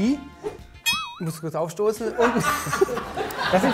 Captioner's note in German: Gelächter